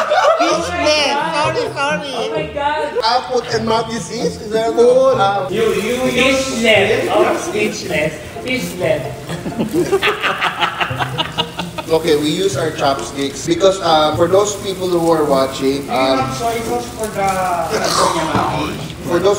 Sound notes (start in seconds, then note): 9.2 laughs mockingly